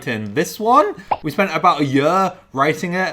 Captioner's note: pops